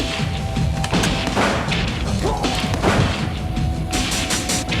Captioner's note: shotgun firing